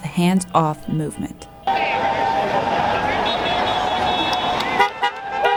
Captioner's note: protest chants